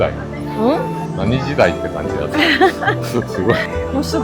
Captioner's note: laughs